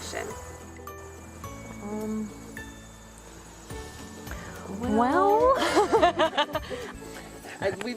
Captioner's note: laughs